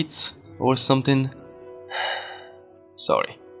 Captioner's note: sigh